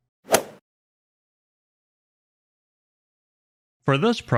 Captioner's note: golf swing sound effect